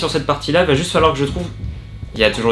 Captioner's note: boom